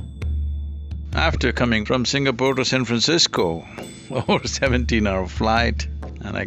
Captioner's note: laughs